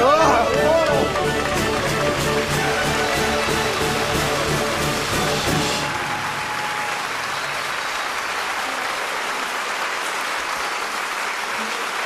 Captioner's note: applause